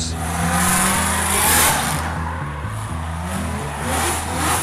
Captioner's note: engine revving